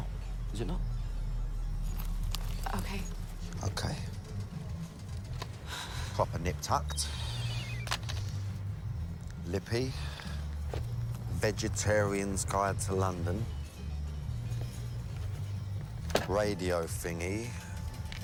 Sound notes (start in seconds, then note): 4.9 sighs; 7.8 cell phone beeping